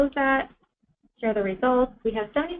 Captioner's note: pause